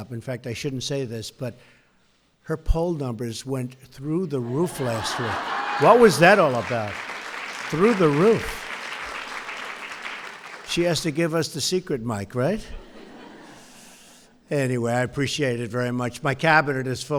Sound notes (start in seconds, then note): 4.4 laughter; 8.5 applause; 12.7 laughter